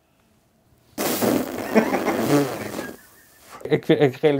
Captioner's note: deep sigh